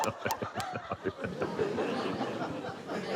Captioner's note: laughs